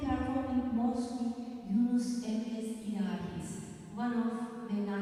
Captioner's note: non-english speech